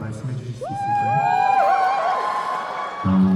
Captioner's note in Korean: 환호